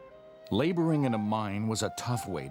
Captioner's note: voiceover